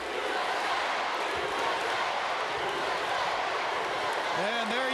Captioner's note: crowd cheering